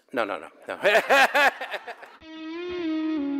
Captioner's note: laughter